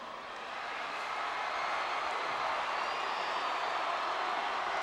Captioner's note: audience cheering